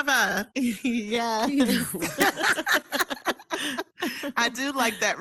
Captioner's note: panelists laughing